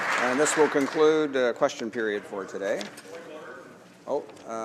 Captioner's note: some Applause